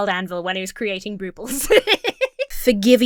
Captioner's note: Emma laughs